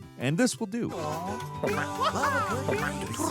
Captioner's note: developer imitates boing; developer imitates squeaking